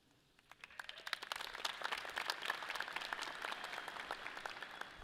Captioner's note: audience applauds